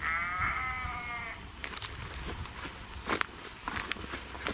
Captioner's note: sheep bleating